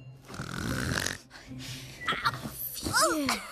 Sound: snoring Resumes

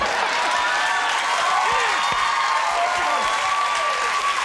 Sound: laughter; applause

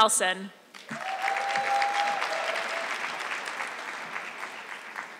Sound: audience clapping

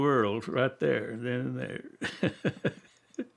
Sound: laughs

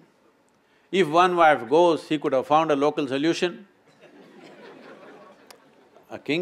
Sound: laughter

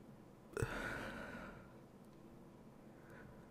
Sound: soft humming

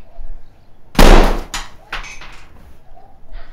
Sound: gunshot

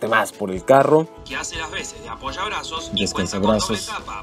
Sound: man speaking in Spanish

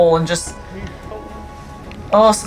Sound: background music; background noise/chatter in clip

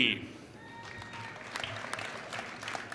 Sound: applause

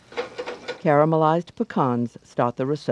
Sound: voiceover

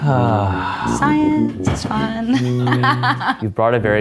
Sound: laughing

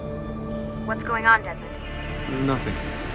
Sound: Lucy through radio

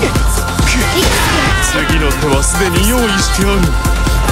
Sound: critted scream

